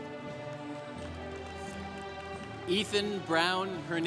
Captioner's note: congregation applauding